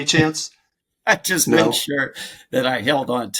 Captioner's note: chuckles